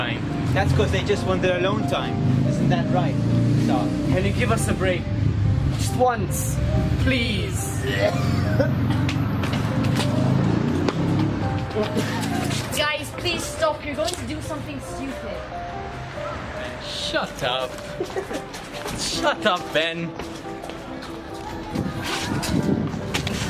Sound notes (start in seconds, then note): 7.8 coughing and gagging; 11.7 laughing and giggling; 17.7 laughing and giggling